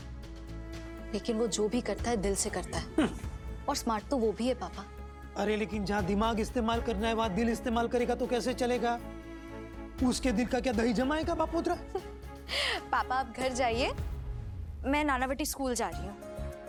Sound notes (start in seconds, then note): 2.8 snickering